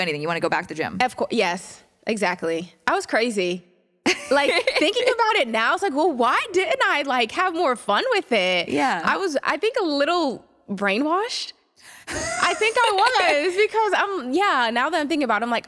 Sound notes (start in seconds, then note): 4.1 laughs